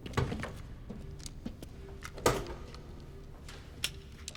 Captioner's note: doors clicking